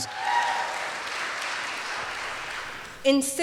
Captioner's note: audience cheers and claps